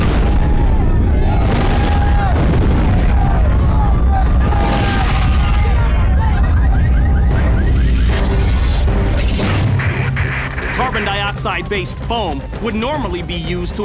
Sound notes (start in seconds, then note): 6.2 car alarms blaring